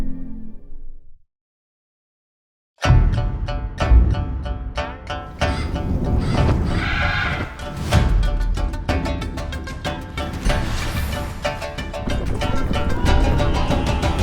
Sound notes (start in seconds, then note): 2.9 chinese-style music playing; 5.4 screeching; 12.2 troops yelling